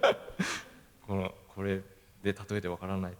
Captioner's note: laugh